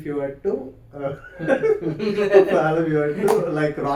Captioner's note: laughs